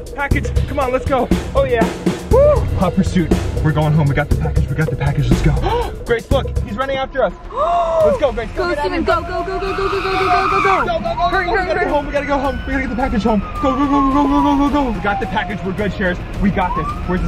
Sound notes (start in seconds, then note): 5.6 gasps